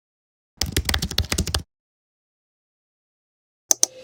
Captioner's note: clicking